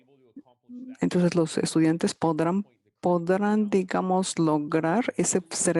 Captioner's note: speaking in foreign language